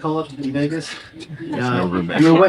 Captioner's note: chuckles